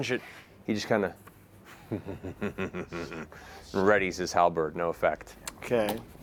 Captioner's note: chuckles